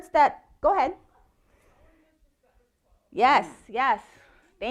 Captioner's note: faintly speaking